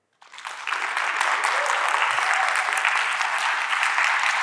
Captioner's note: audience clapping